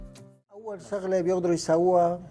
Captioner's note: speaking Arabic